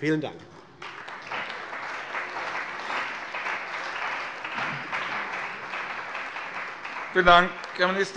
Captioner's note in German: Beifall bei der CDU und dem BÜNDNIS 90/DIE GRÜNEN